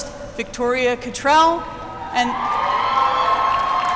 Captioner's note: applause